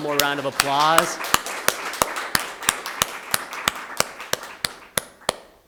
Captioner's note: everyone applauding